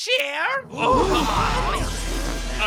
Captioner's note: horrified gasping